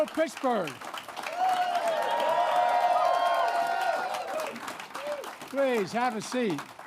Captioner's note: applause